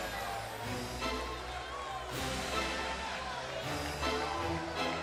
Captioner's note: cheers & boos